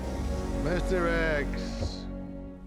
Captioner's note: scottish accent